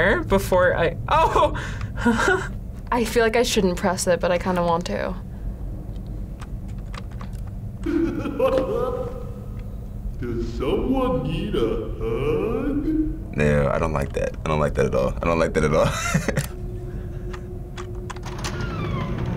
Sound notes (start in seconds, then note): 1.2 chuckles; 7.8 man laughs; 15.7 laughs